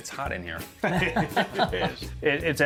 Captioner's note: laughs